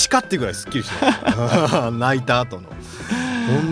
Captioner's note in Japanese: 笑い